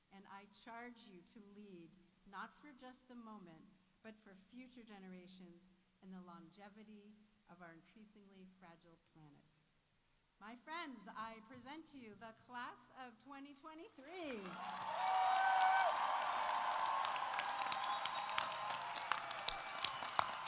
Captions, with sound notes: and I charge you to lead not for just the moment, but for future generations and the longevity of our increasingly fragile planet. My friends, I present to you the Class of 2023. -(audience applauding) -(audience cheering)